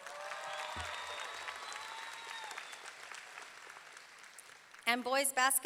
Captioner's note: audience cheering; audience clapping